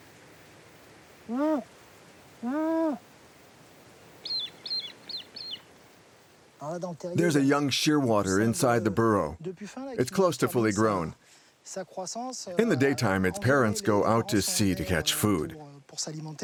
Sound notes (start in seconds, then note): 1.3 Eric softly hoots; 4.2 bird squeaks; 6.1 speaking foreign language